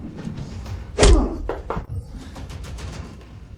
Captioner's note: knocking